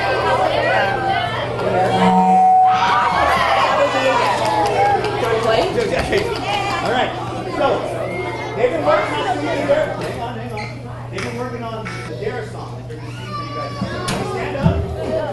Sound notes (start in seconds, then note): 1.6 microphone buzzing; 3.2 people chattering